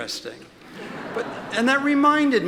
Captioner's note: audience laughs